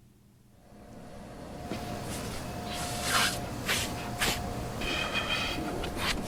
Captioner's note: sound of industrial vacuum cleaner